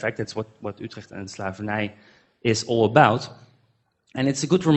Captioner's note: foreign language